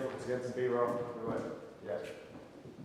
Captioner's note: footsteps banging